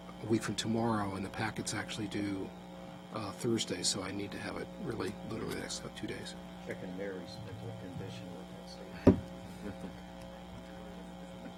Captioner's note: laughter